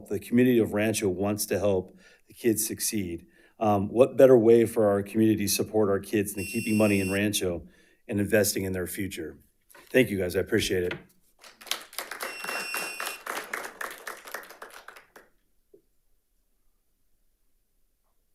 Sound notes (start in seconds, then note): 11.4 audience applauding